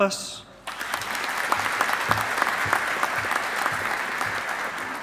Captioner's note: audience applauding